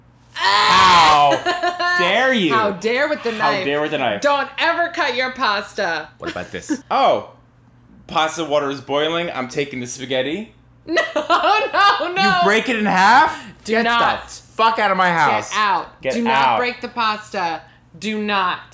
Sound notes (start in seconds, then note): 0.5 sounds of violent disgust